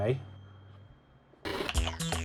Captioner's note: TV noise